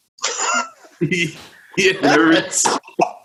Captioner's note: laughs